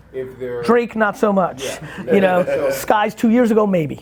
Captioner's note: laughing